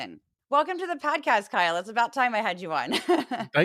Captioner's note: laugh